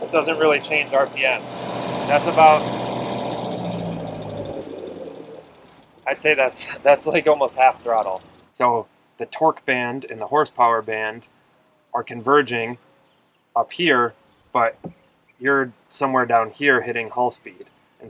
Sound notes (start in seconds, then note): 3.6 boat engine dying down